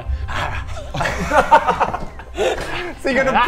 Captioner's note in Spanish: carcajadas